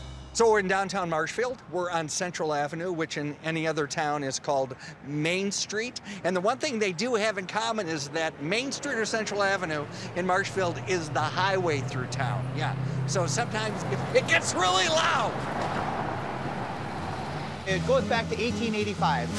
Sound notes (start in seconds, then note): 15.4 cars whirring